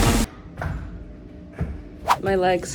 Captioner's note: feet thud on floor